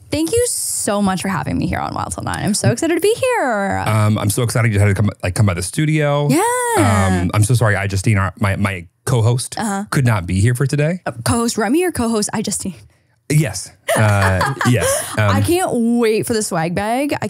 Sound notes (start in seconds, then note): 13.8 laughs